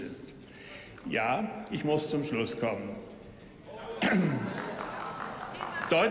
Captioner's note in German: Zwischenrufe, Beifall